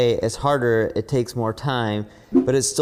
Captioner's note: graphics whooshing